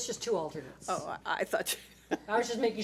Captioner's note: laughs